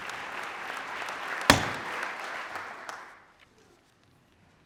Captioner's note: gavel bangs